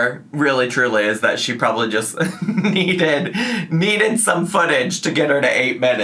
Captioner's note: laughs